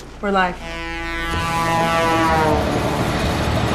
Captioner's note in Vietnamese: tiếng còi xe tải inh ỏi